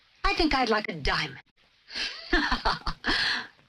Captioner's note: laughs